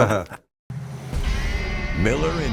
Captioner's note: panelists laughing